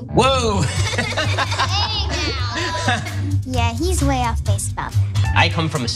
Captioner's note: laugh